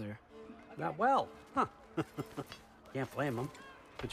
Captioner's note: laugh